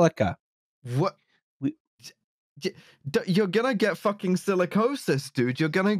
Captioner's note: stammers